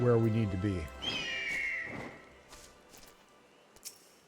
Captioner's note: whistles